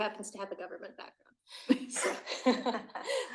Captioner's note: laugh